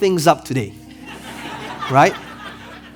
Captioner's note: audience laughing